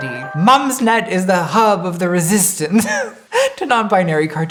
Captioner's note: laughing